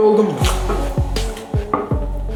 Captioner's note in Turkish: Şapırtı sesi😂